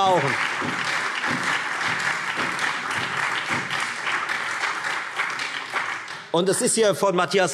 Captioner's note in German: Lebhafter Beifall Freie Demokraten, BÜNDNIS 90/DIE GRÜNEN und SPD